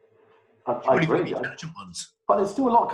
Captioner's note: murmuring